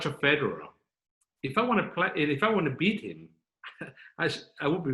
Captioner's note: chuckling